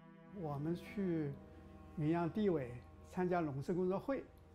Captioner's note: in foreign language